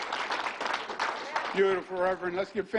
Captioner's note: applause